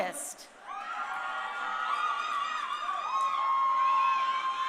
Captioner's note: crowd cheering